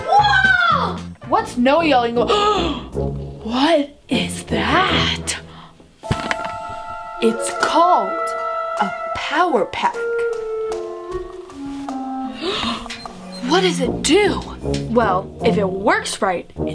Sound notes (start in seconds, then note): 2.2 gasps; 2.9 mischievous music; 12.2 gasps